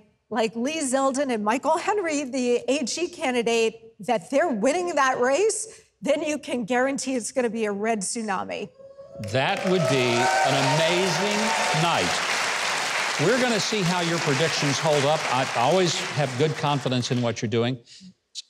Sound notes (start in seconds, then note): 9.0 crowd cheers; 12.3 crowd applauds